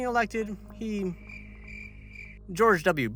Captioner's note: crickets